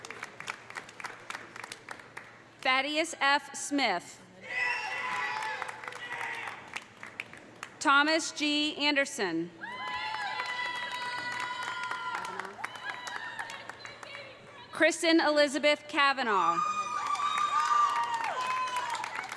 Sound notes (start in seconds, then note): 0.0 audience applauding; 4.5 audience cheering; 5.0 audience applauding; 9.6 audience cheering; 9.8 audience applauding; 16.5 audience cheering; 16.8 audience applauding